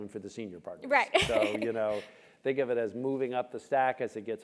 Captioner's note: laugh